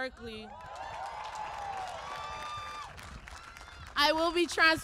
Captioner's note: applause